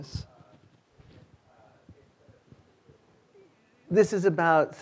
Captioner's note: student speaking faintly